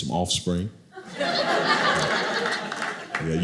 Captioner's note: audience laughing